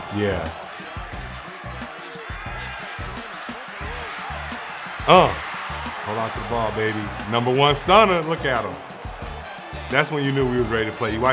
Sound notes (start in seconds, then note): 1.2 fans cheering; 2.0 commentator talking; 5.0 grunts